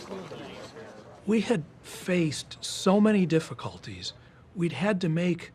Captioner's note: navigators chattering